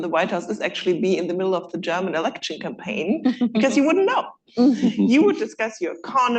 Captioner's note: laughter